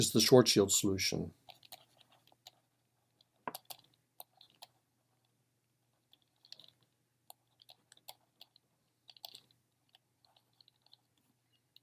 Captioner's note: typing